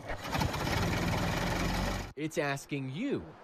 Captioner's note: motor idling